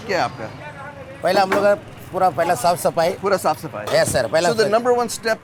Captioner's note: speaking in Hindi